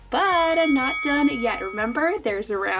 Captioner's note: bell dinging